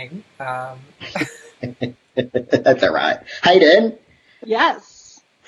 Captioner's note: laughs